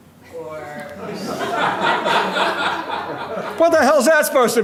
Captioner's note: audience laughing